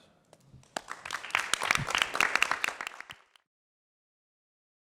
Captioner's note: applause